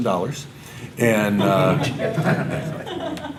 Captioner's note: audience laughter